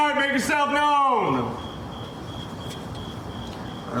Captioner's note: crickets chirping